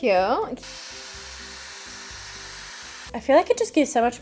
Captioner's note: hairdryer whirring